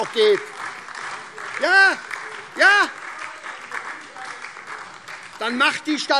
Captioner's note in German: Beifall SPD und DIE LINKE